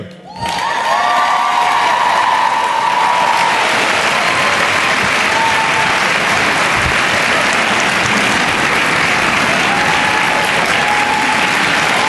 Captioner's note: cheering and Applause